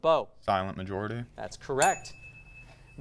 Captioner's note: ding sound